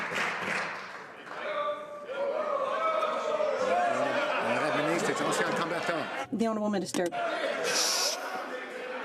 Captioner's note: some Applause